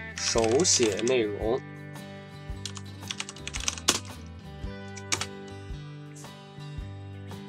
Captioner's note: typing Sound